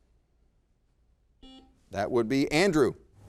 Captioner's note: buzzer beeps